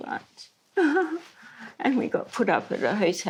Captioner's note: laughs